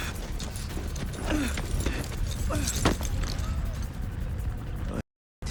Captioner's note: Murphy grunting